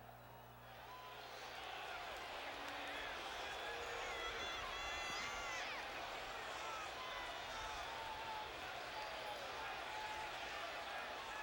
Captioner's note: applause